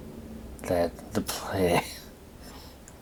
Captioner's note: coughing